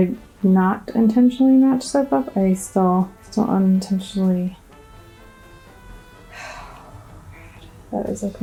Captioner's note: siiiiigh